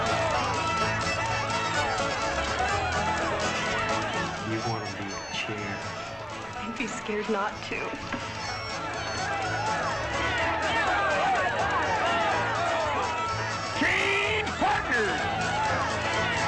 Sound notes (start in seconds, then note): 0.0 festive chatter; 0.0 lively music; 9.0 festive chatter; 9.0 lively music; 16.2 festive chatter; 16.2 lively music